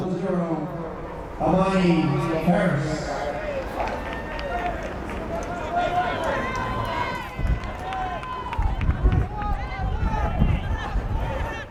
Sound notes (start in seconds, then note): 7.9 fans yelling